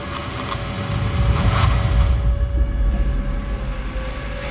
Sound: radio interference

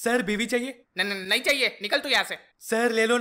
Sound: stammering

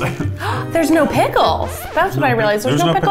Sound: gasps

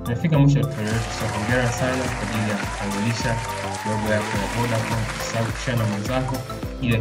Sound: applause

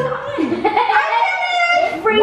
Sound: kid laughs

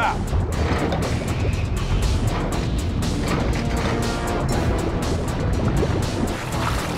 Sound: dramatic music; water gurgling

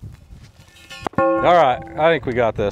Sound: fence post ringing

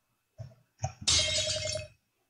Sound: crash

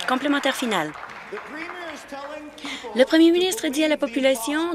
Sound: applause

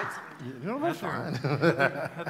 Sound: laughing

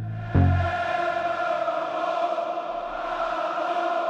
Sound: fans chanting

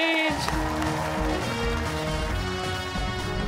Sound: cheers and applause

